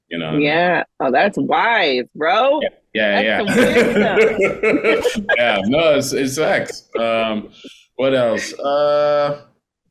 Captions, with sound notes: you know what I mean? - Yeah. Oh, that's wise, bro. - Yeah, yeah. (laughing) Yeah, no. It sucks. What else?